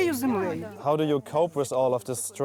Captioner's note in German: englisch